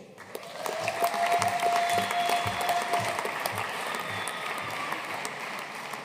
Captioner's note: audience cheering and applauding